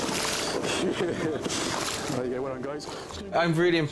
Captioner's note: chuckling